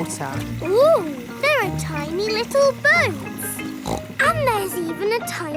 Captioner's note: snorts